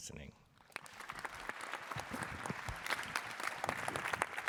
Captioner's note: applause